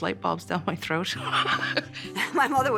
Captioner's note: laughs